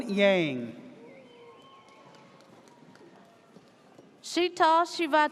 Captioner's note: audience cheers